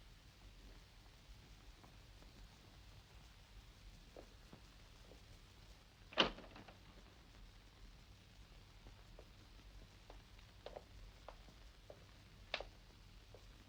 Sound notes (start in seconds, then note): 6.2 door clicks